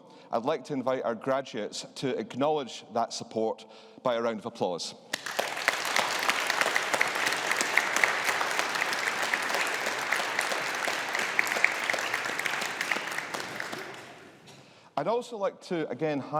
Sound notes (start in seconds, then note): 5.1 audience applauding